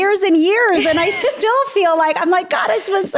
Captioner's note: laughing